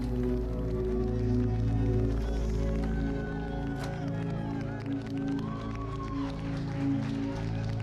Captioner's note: audience cheering